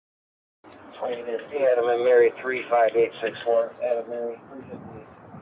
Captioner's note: radio chatter